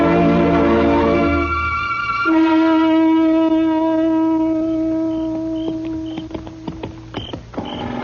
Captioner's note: horn blares